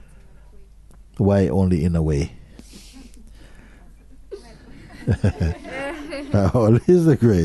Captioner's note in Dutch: gelach